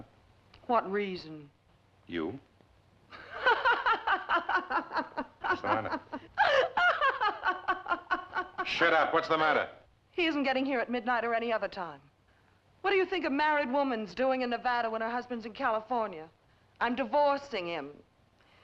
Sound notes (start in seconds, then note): 3.2 laughs